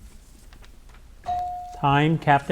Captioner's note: bell dings